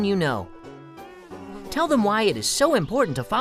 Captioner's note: fly buzzing